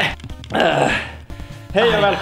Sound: exhales

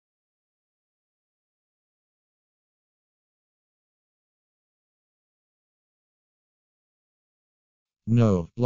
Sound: silence

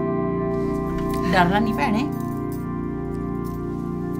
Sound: speaking Punjabi

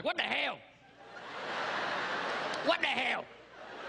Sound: crowd laughing

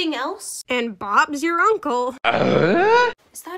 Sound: eughhh

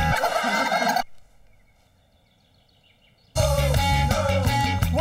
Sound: crowd mocking

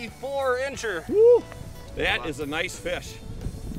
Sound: cheering

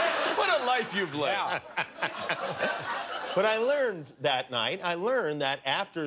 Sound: laughter

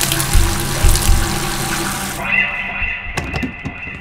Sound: water flow abruptly ends

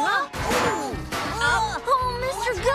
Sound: clanging Continues

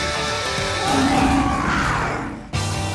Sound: growling

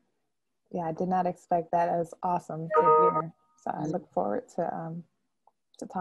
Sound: chime sound

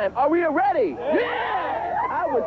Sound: group cheering

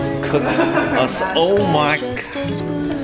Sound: laughter

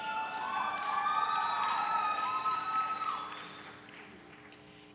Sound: audience cheering

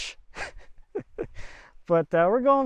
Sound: laughing

